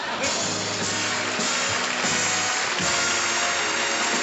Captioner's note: applause